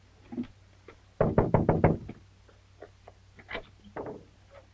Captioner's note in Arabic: يطرق